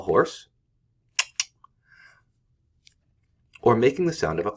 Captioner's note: clicks